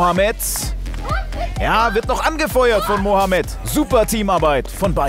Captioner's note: Aufgeregte Rufe